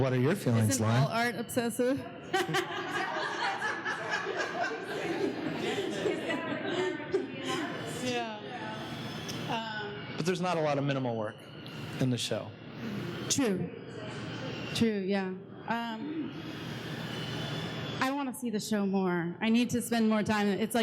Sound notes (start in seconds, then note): 2.3 laughing